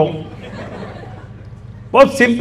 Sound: audience laughing

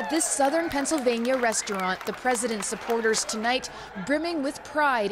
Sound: cheers and Applause

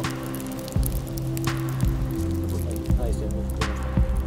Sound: rain; chatter

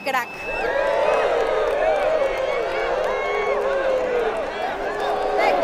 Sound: cheering fans

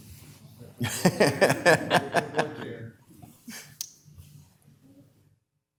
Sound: laughing

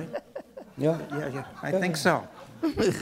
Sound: chuckling

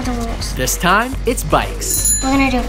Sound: bell ringing

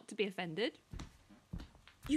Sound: approaching footsteps

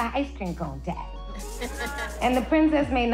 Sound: laughing

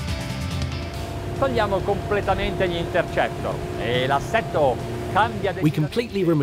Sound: speaks Italian

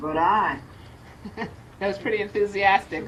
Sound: laughs

